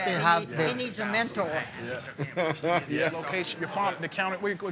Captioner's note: laughing